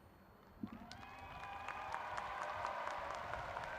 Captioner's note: applauding